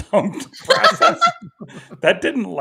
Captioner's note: everybody laughing